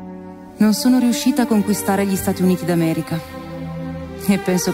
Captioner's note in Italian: voce di donna fuori campo